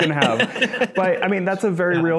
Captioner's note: laughs